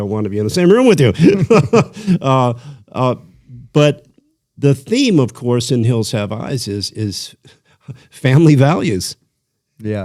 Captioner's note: laughter